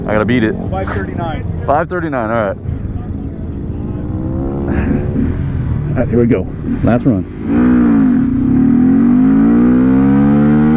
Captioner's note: motorcycle revving engine